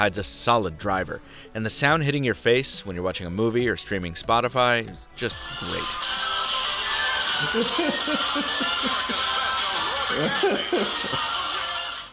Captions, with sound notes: hides a solid driver, and the sound hitting your face when you're watching a movie or streaming Spotify is just great. (exercise music) (laughter)